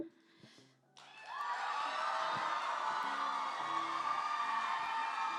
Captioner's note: cheering and applause